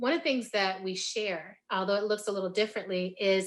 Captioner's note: none